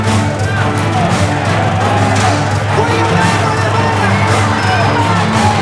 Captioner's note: shouting continues